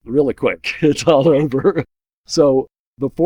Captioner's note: laughs